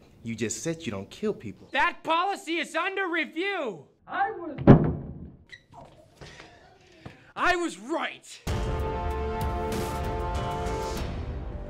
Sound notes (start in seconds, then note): 4.5 door thudding; 8.4 dramatic music